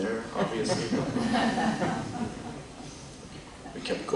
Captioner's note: laughter